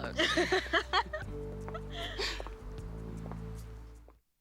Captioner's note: both laugh